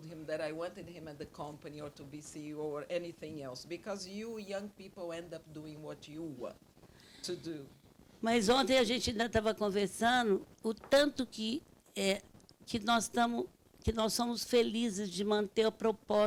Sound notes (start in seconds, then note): 8.3 speaking Portuguese